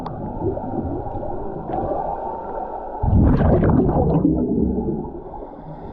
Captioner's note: underwater sounds continue